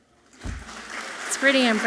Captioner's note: audience clapping softly